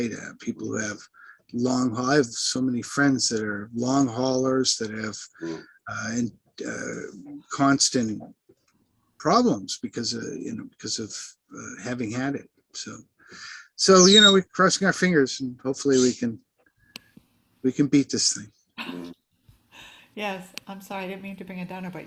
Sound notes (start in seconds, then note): 13.9 parrot whistles